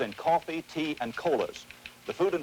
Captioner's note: teletype machine tapping